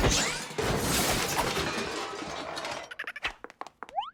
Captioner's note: loud crash, paint cans clatter